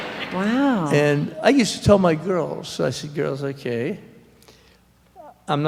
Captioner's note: in disbelief